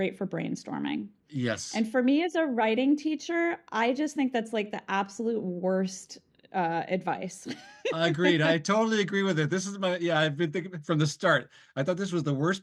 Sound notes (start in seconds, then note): 7.4 laughs